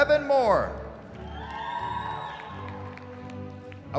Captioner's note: cheering